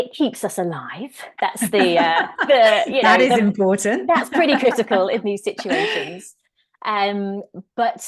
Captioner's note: laughs